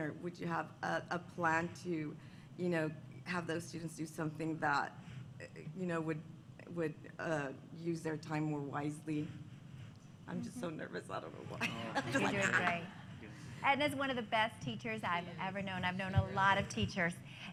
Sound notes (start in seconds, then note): 11.6 laughter